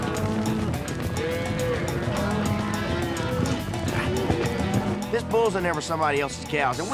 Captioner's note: cows moo